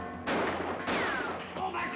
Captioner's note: gun firing